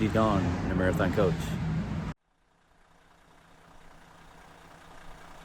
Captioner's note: coach engine sound